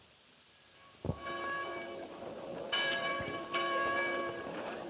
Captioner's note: church bells ringing